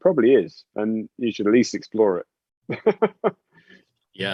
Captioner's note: laughs